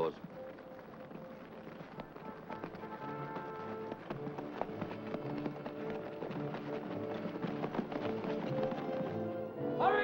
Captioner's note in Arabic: ضربات حوافر; موسيقى متوترة